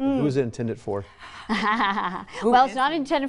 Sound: laughs

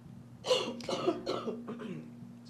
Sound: coughs

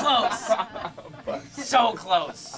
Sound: laughing

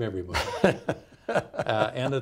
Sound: laughing

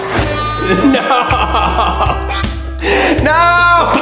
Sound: dramatic music; laughs

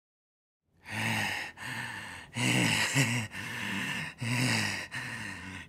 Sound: heavily breathing

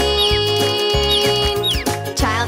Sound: chirping

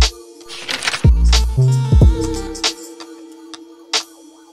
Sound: camera shutter clicks

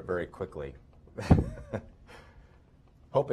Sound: laughter

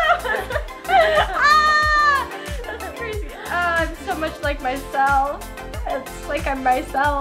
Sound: yelling

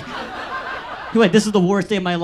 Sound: audience laughs

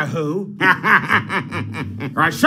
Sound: laughing

